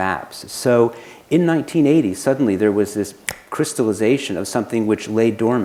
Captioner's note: snaps finger